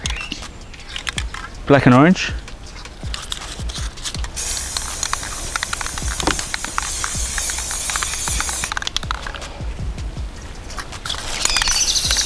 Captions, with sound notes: Black and orange. (spray can clicking)